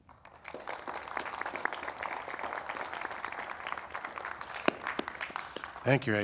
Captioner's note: audience applauding